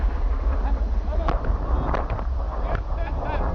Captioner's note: blasts rumble; soldiers laugh